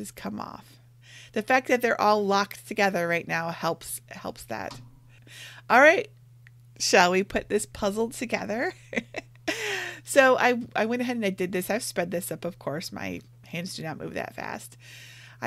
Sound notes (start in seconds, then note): 8.8 laughing